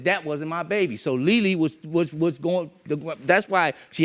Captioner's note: stammering